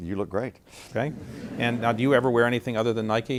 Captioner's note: laughter